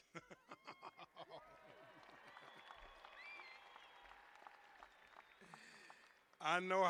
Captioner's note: laughter; cheers and applause